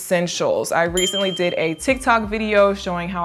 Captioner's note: button clicking; bell ringing